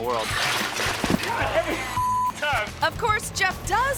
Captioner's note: bike crashes